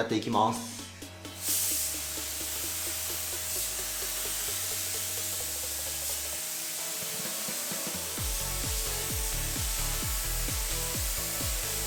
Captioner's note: paint sound